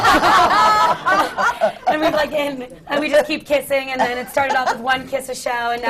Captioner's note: laughter